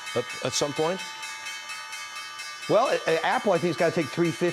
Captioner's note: opening bell ringing